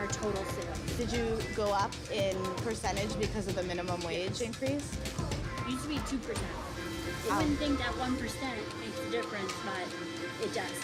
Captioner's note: servers and reporter talking